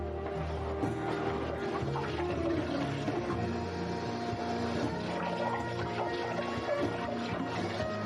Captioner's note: water running